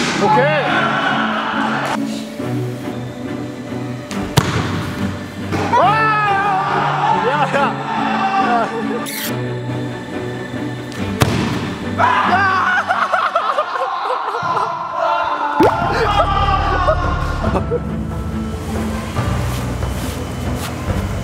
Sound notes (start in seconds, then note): 14.1 cry